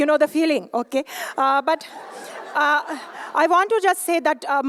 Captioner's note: laughter